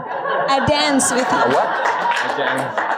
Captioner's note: audience laughing